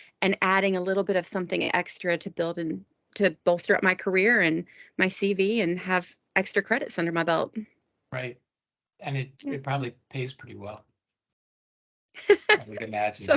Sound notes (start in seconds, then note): 10.1 laughing